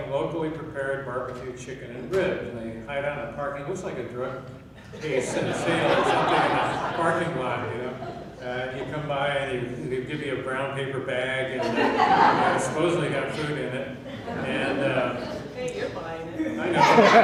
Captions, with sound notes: locally prepared barbecue chicken and ribs, and they hide out in a parking-- Looks like a drug (laughing drowns out speaker) or something in the parking lot, you know? And you come by, and they give you a brown paper bag, (laughing) and it's supposedly got food in it. - Hey, you're buying it.